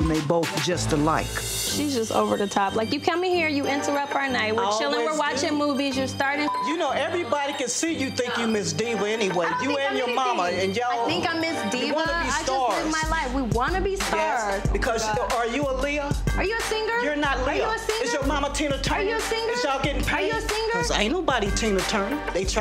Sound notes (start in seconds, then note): 6.4 beep